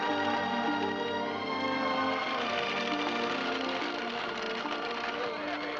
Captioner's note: horse trotting